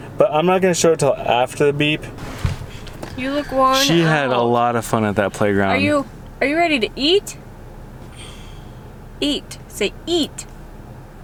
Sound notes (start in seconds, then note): 8.1 sighs